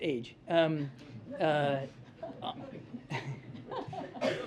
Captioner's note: laughter